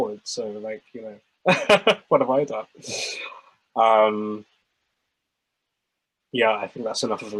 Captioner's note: lauhgs